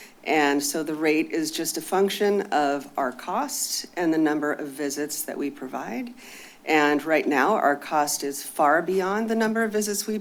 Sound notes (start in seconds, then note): none